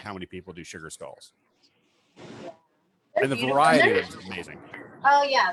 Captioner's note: laughs